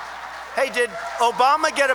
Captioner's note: applause